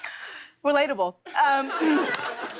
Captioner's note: laughter